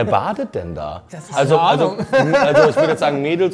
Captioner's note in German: Gelächter